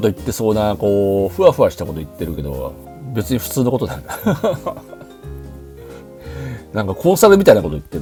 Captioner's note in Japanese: 笑い